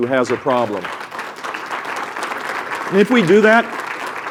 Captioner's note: applause